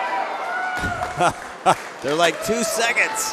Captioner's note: laughter